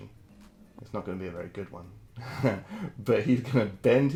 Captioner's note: laughs